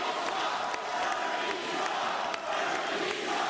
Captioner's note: cheers and applause